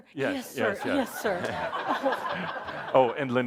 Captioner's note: more laughter